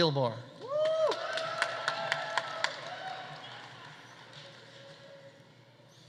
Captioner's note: audience applauding; audience cheering